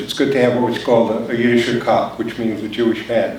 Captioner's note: foreign language spoken